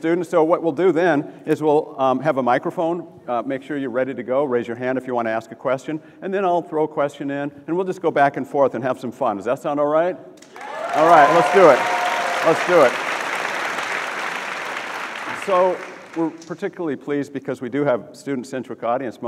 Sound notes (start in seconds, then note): 10.4 audience applauds; 13.4 audience clapping